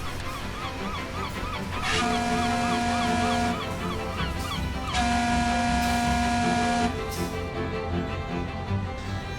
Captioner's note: machinery whirrs, seagulls squawk, and a tugboat's whistle sounds